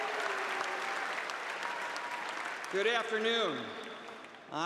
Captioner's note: cheers and applause